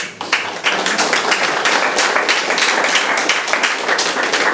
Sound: attendees applauding

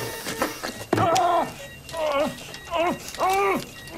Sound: man shouting

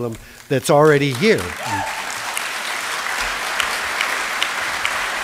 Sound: applause

